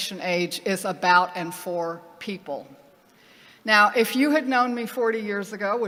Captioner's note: none